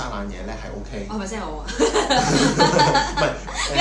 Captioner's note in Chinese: 傻笑